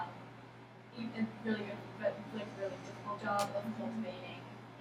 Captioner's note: speaking softly